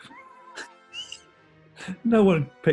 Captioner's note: sniggering